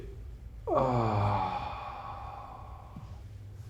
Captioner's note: groaning